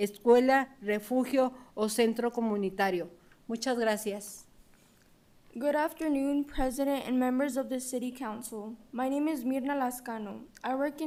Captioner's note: speaking in spanish